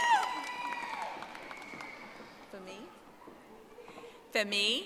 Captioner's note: audience applauding